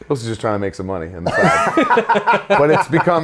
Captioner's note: Zack and Jim laughing